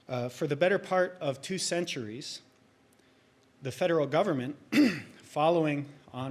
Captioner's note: clears throat